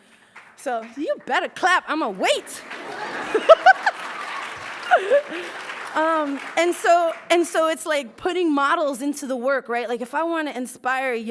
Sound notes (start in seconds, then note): 0.8 starts to clap; 2.4 laughs; 5.8 applauds